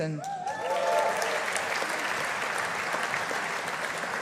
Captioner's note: audience applauding